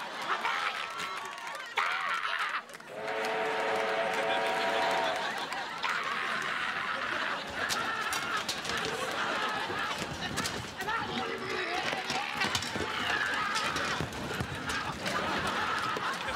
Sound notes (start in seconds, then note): 0.2 choking; 0.4 screaming; 5.8 screaming; 12.9 screaming